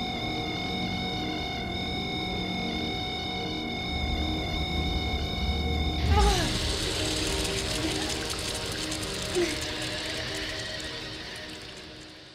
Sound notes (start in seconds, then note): 6.0 groaning